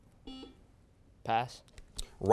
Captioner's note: beeping